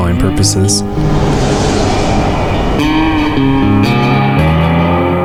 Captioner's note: air whooshing